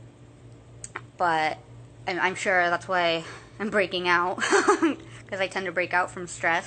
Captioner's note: laughs